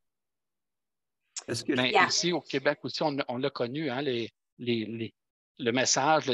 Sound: speaking foreign language

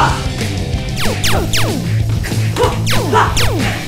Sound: SFX: Laser blasts

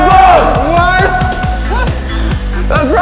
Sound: laughter

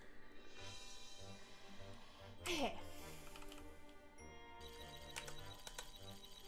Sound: sighs

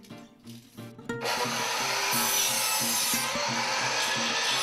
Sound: saw cutting wood

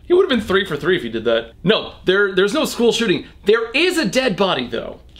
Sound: none

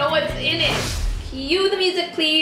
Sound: whooshing

